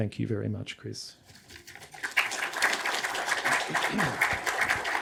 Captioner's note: audience applauding